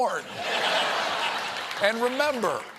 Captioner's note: laughter